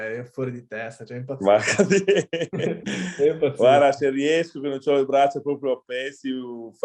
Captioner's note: laughs